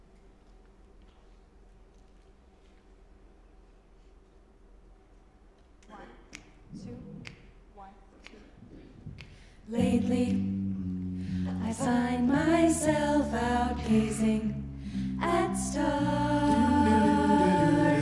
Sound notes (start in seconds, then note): 6.3 snapping; 9.8 high voices